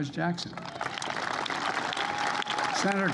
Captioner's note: applause